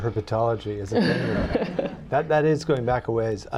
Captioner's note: laughter